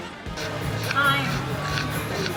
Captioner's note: panting pug